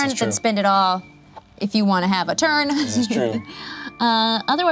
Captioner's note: laughs